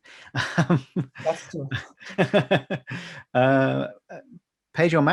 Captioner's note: laughing